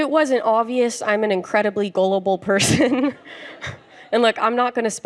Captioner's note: chuckles